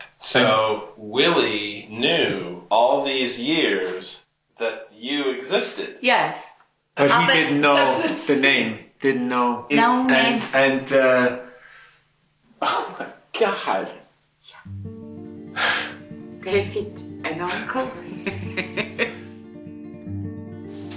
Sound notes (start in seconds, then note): 15.5 sighs